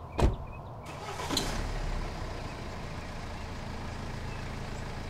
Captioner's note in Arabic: محرك السيارة يدور